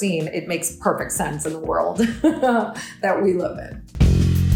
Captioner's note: laughs